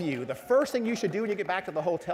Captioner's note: applause